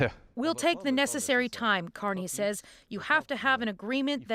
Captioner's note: speaking French